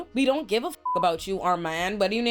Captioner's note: beep